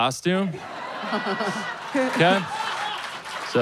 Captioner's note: audience laughs and applauds